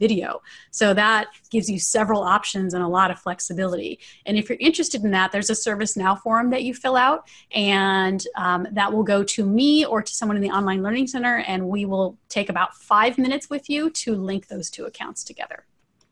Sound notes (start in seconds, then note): none